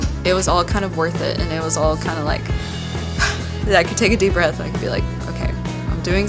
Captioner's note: breathes